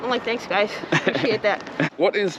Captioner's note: laughs